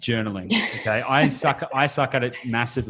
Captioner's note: laughs